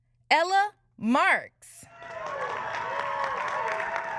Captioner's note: applause